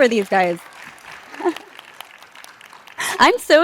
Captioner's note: participants clap